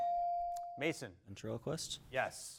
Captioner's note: bell dings